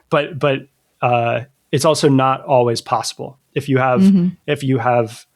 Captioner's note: uh